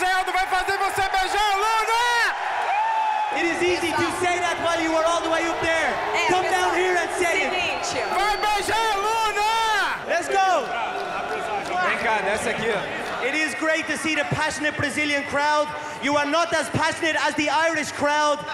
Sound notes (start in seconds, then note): 2.0 crowd cheering; 8.1 yelling in Portuguese